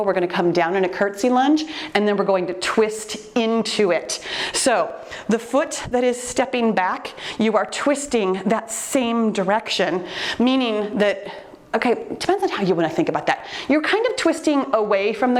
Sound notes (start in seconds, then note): none